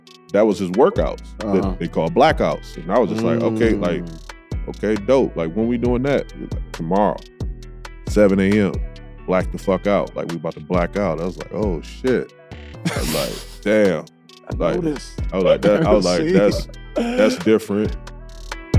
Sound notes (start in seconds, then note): 12.8 chuckles